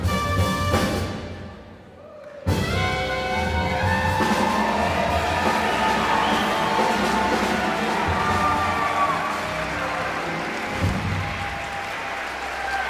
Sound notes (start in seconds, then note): 2.3 audience cheering; 9.8 audience clapping